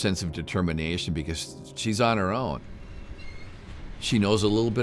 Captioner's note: train creaking